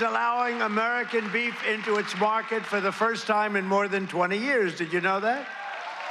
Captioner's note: cheers and applause